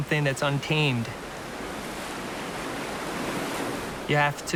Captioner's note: water splashing